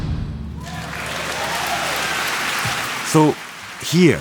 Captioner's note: audience applauding